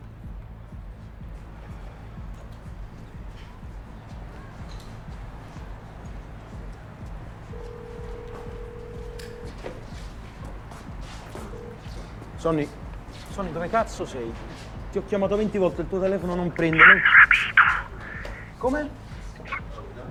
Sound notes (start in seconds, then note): 7.4 phone ringing